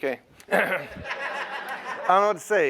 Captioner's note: laughter